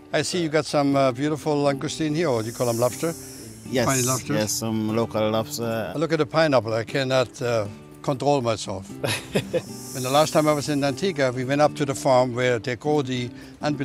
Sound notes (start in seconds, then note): 9.0 laughs